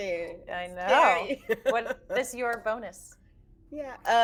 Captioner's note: laughing